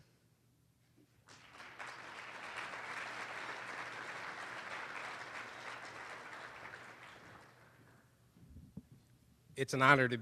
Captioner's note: applause